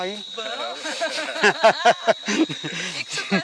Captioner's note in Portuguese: Risadas de ambos